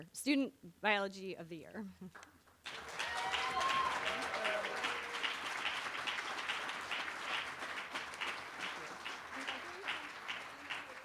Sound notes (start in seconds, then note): 2.6 cheering